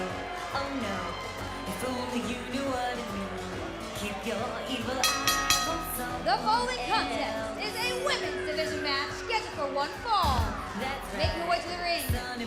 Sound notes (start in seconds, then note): 5.0 bell ringing